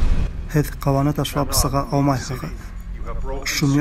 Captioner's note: from aircraft loudspeaker